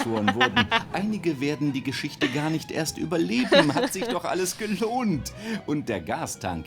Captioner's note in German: lacht